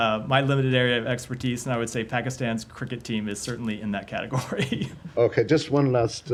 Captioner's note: laughter